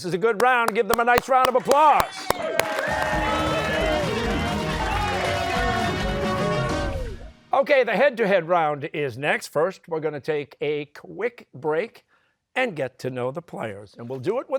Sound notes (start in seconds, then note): 2.9 cheers and applause